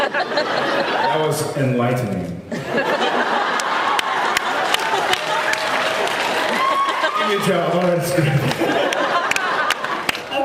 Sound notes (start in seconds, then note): 0.0 laughs; 2.6 laughs, applauds; 8.2 laughs